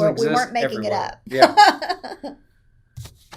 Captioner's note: laughs